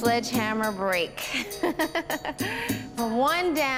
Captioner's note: chuckles